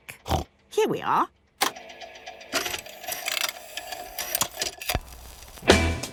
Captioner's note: clicks, whirring